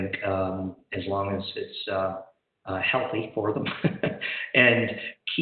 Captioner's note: laughs